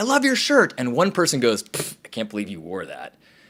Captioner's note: scoffs